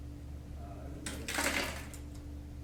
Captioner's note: rocks hitting the floor